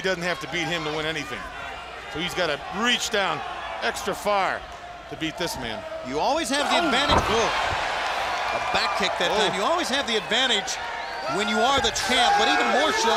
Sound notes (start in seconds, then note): 8.3 crowd cheering